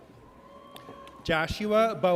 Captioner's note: audience cheers